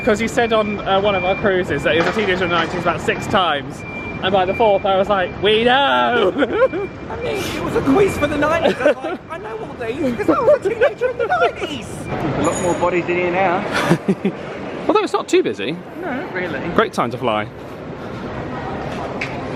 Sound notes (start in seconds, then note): 6.0 laughs